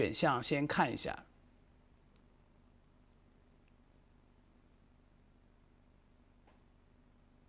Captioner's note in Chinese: 空白_音频